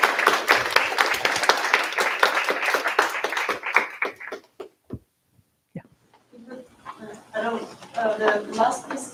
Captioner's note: applause